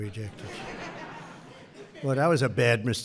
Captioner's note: laughter